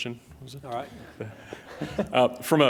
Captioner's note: laughs